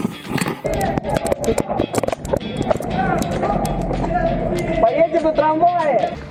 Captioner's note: running sounds